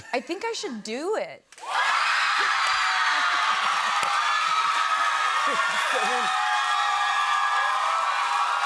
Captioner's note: cheers and applause